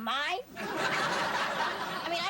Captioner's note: sitcom laughter